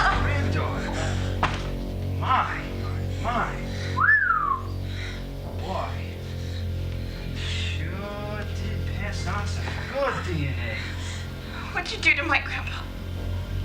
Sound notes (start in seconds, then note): 3.9 whistles